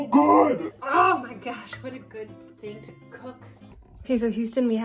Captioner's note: distorted voice; normal voice